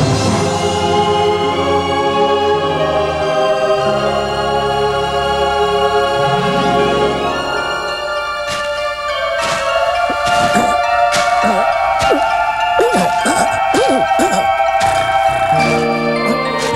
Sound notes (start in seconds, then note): 9.9 coughing